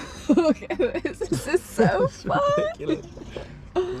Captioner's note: laughing